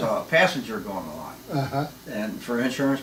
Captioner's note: laughing